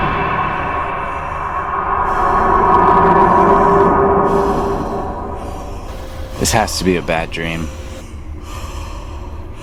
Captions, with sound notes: (breathing deeply) This has to be a bad dream.